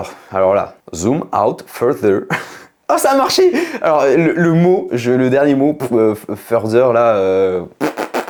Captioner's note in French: rires